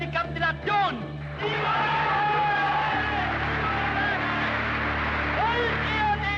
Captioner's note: crowd cheer